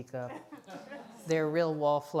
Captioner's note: audience laughs